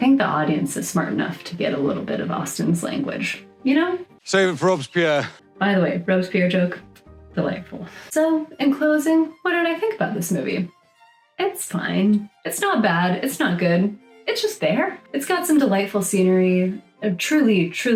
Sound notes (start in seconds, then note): 6.7 kiss noise